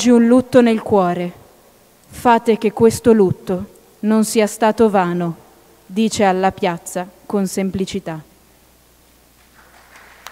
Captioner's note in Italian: Applauso